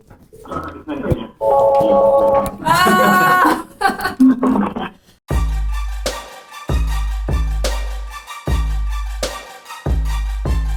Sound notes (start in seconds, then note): 2.6 laughing; 5.3 upbeat hip hop music